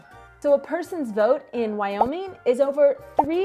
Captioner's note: bubbles popping